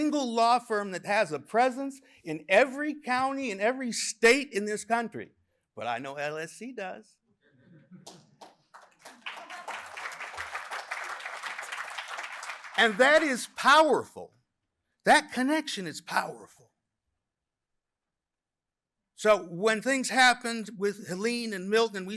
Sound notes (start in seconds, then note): 9.8 applause